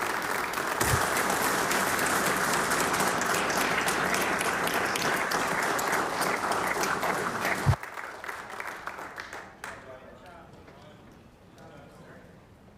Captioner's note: applause